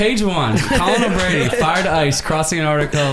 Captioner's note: group laughs